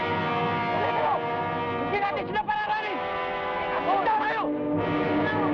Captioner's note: men shout in Tagalog